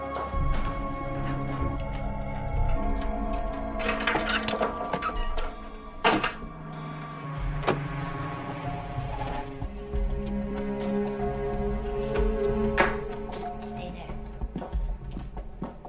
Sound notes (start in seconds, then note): 0.4 lock rattling; 5.1 engine rumbles